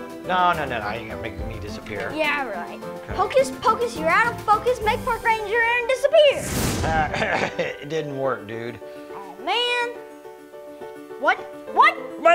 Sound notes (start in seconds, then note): 6.3 magic explosion; 6.8 laughing